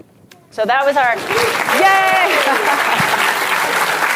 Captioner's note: applause